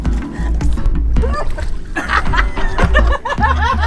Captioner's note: giggles